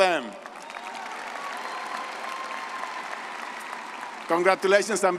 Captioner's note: all applauding and cheering